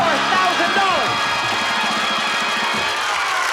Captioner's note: applause, cheering and screaming